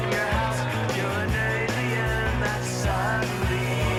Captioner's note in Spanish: Silbidos